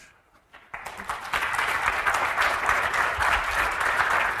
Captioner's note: applause